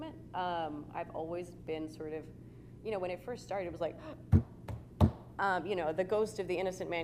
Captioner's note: gasp